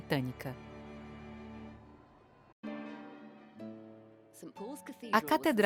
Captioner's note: audience applauding; gentle music